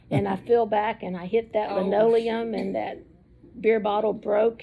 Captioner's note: laughs